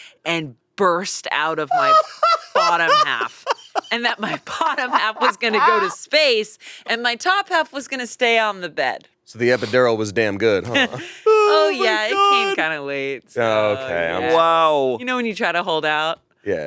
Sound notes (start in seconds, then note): 1.7 laughs